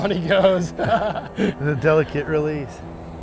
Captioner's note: laughing